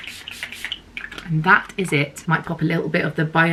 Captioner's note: spray whirring